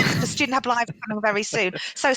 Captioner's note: laughing